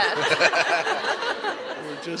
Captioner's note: laughter